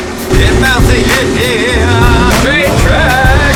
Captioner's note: intense music; grunts